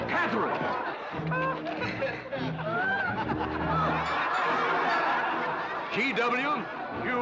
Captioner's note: crowd laughing